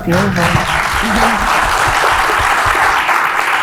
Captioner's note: applauds